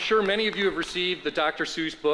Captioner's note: applause